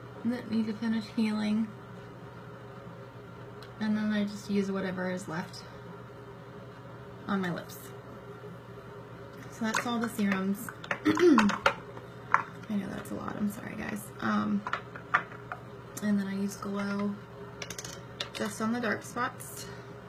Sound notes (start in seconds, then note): 11.0 clears throat